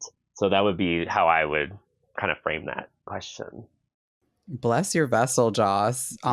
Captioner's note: none